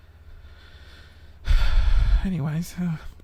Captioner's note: deep sigh